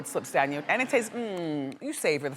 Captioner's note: happy eating noise